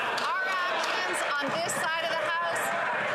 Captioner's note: some Applause